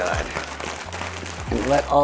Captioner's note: bag rustling